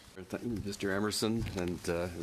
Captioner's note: speaking french